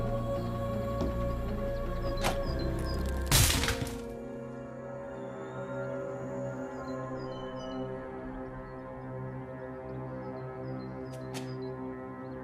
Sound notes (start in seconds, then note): 1.8 lock clicking; 2.2 wood cracking; 4.7 soft tense music